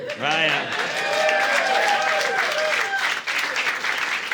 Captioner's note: audience cheering